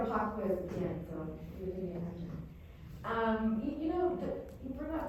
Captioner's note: faintly speaking